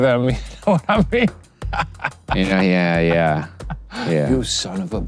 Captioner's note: laughs